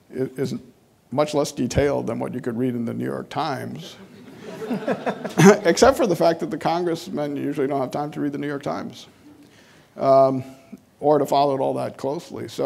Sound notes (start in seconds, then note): 3.9 audience laughing